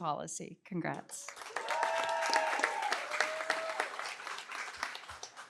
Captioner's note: cheering, applause